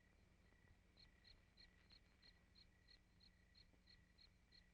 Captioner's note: insects chirping